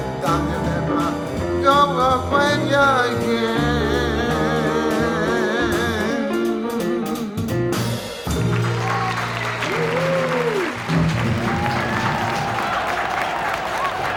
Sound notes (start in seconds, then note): 8.2 audience cheers and applauds